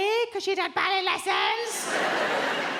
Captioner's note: mockingly